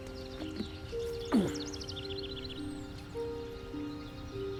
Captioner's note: birds chirping